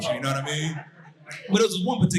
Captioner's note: audience laughing